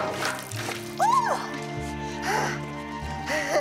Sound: screams; panting; chuckles

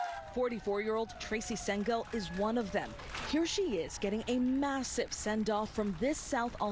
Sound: cheers and applause

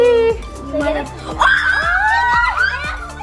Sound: screams

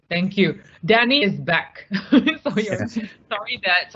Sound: laughing

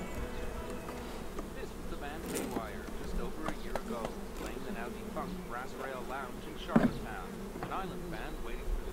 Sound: talk radio in background

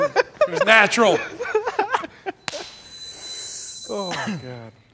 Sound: all laughing

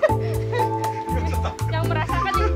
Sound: chuckled

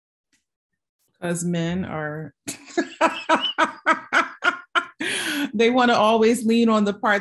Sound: laughing

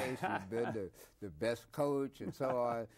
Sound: Herman laughs

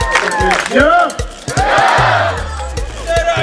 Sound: crowd

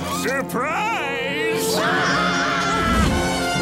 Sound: screaming

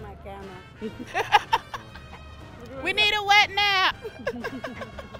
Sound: laughs

